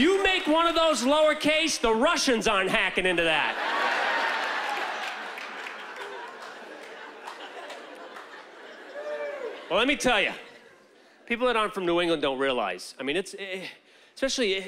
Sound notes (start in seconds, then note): 5.9 laughter